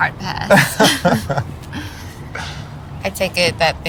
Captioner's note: both laughing